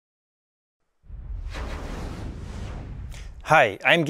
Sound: whooshing

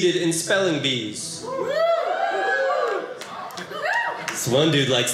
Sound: audience cheering

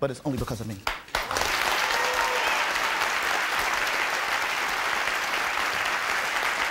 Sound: audience applauding and cheering

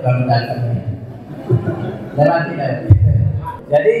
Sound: audience laughs

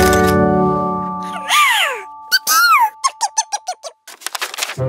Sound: little Yellow Chickadee chirps

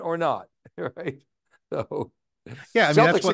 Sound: chuckles

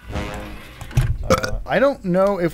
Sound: burps into microphone

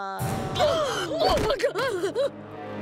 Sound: gasping

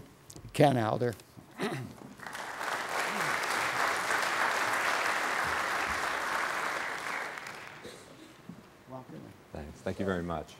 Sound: applause

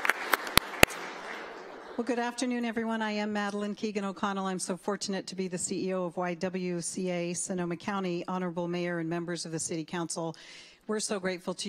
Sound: applause

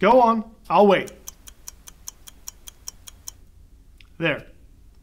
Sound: clock ticking

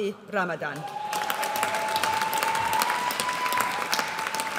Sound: audience cheers

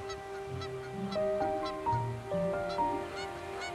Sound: seagulls cawing

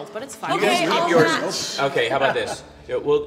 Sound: people talking and laughing

